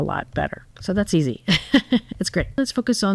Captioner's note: laugh